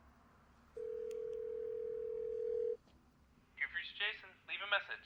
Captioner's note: phone ringing